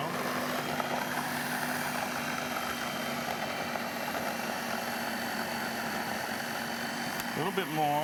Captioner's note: machine continues